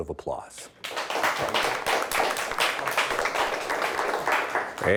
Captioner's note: audience applauds